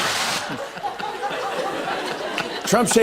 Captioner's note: laughter